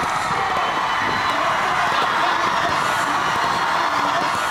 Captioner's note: cheering and applause